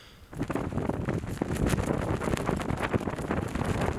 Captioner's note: wind flapping